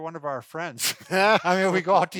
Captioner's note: laughs